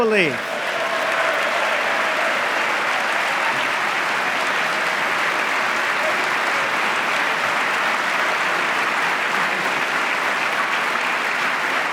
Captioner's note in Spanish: aplauso